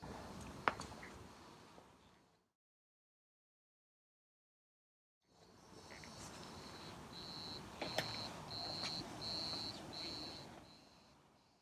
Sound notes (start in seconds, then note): 6.0 insects chirping